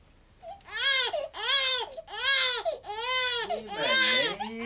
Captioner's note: cries